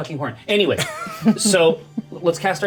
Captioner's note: Bobby laughing